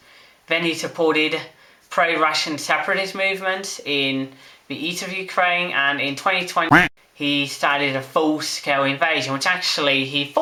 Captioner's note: quack